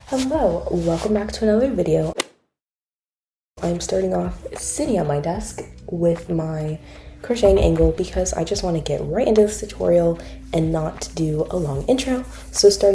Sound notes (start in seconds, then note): 2.2 golf hit sound effect